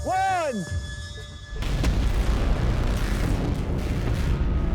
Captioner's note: explosion